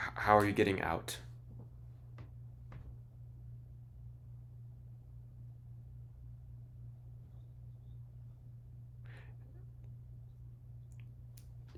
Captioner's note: silence